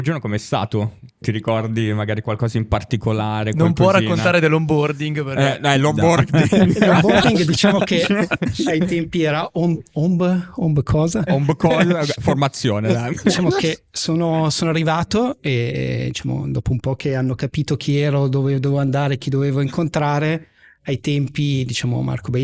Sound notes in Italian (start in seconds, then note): 6.0 laughter